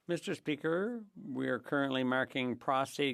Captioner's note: speaking French